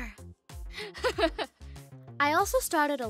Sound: laughs

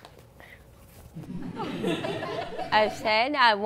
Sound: laughter

